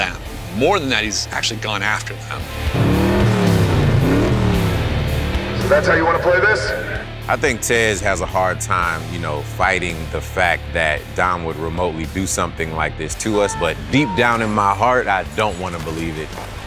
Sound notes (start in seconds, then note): 2.4 engine revving